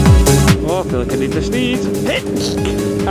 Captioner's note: sneezes